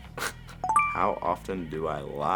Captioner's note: ding